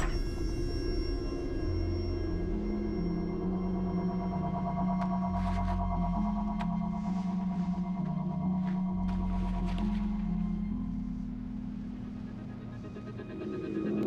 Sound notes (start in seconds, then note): 0.0 door creaks